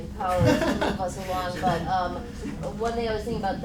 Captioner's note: laughing